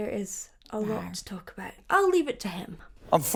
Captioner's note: character growls